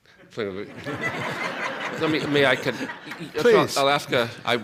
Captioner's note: laughter